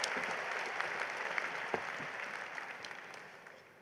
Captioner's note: applause